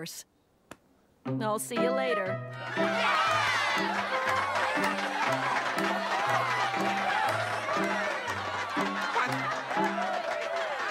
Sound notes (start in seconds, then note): 2.4 everyone cheers and claps